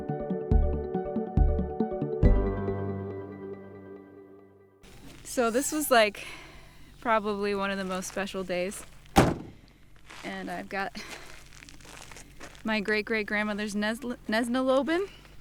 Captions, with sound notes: - So this was like probably one of the most special days, (door thuds) and I've got my great-great-grandmother's Nesna Lobben.